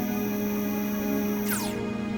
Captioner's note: weapon powering down